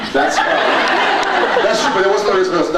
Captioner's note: laughs